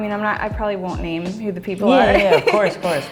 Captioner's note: laughs